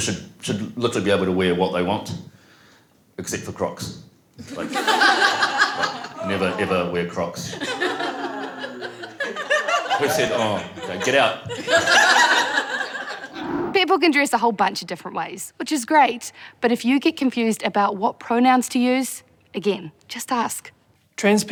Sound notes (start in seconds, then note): 4.4 laughter; 7.5 laughter, man boos; 12.4 laughter